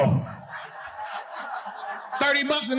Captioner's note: audience laughing